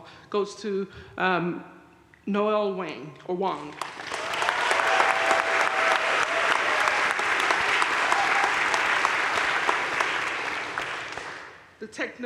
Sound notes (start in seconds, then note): 3.7 crowd cheering and applauding